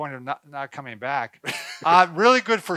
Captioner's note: laughing